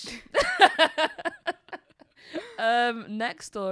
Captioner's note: laughs